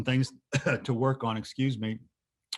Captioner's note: coughing